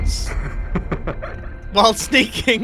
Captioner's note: laughs